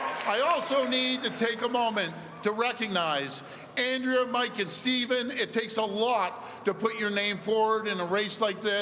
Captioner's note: cheering